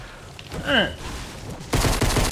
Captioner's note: grunting; gun exploding